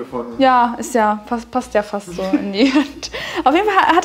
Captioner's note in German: kichert